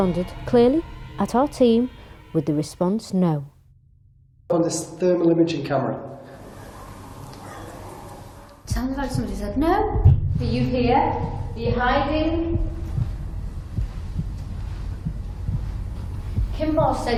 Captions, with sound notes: responded clearly at our team, with the response no. - On this thermal imaging camera. - Sounded like somebody said no. Will you appear, are you hiding? (heartbeats)